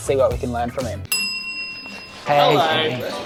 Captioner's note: bell dings